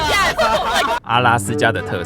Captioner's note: laughs in population distribution